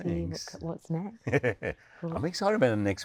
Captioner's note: Hugh chuckling